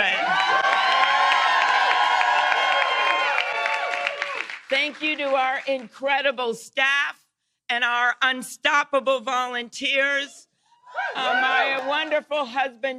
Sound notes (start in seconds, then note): 7.5 cheers and applause